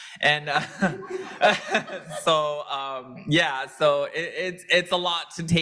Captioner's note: laughs